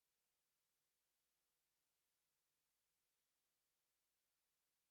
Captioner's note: none